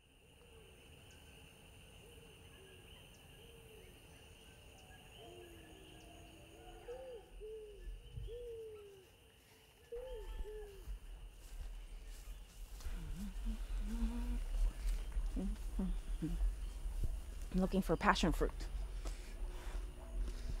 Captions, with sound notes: (insect sounds) (rustling sounds and humming in the background) I'm looking for passion fruit.